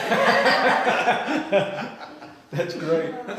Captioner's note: group laughing